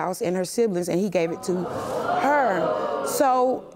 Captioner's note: audience exclaiming